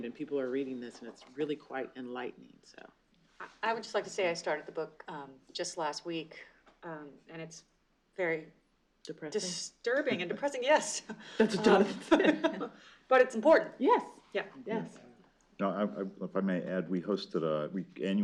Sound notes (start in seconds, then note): 10.8 laughter